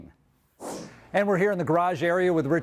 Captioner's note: whoosh sound